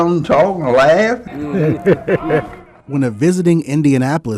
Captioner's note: laughter